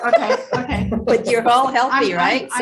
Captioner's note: laughs